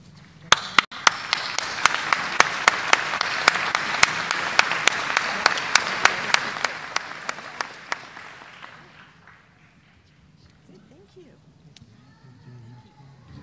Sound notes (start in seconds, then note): 4.4 applause